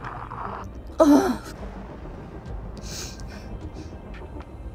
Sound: thunder

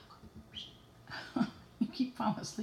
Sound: whistle

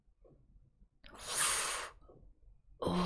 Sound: sharp inhale

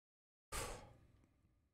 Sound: exhales

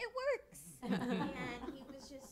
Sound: laughter

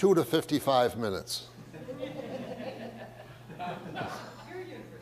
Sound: audience laughs

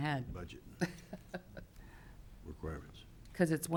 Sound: laughing

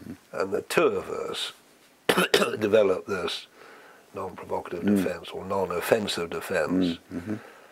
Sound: cough

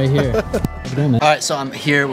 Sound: laughs

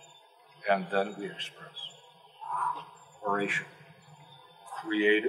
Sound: exhale

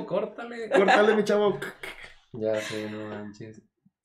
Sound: laughter

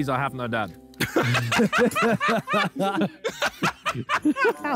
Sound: all laughing

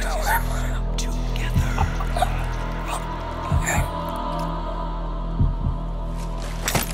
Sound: man gurgling

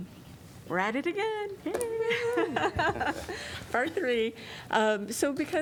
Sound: laughter

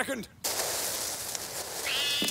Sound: rustling grass; cat yowling

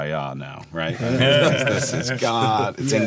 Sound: laughing

